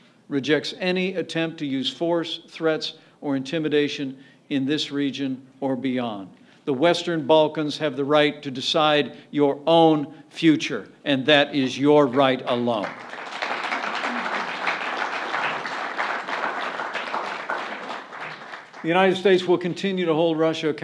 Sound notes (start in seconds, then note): 12.5 applause